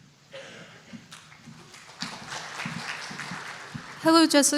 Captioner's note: applause